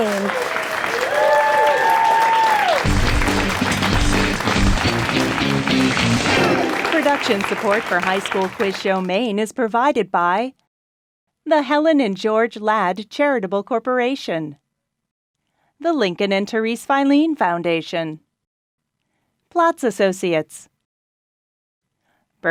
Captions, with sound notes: (applause) (upbeat guitar sting) - [Voiceover] Production support for High School Quiz Show Maine is provided by the Helen and George Ladd Charitable Corporation, the Lincoln and Therese Filene Foundation, Platz Associates, Bernstein Shur, and by